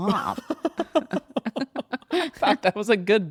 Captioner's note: laughs